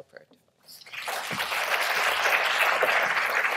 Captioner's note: applause